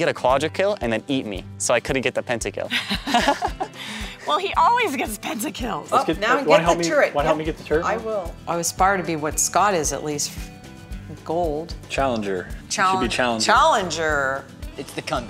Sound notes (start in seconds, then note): 2.7 laughter